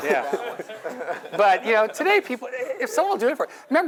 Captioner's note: laugh